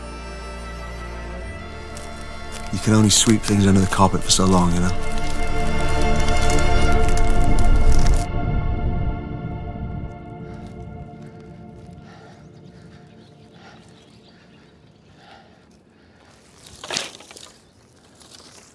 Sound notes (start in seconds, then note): 7.2 emotional music fades; 11.9 huffing